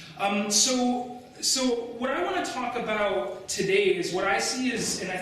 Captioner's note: none